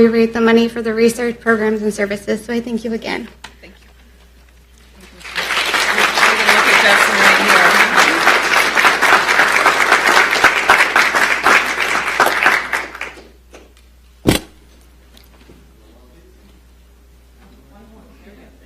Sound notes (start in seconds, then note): 7.9 applause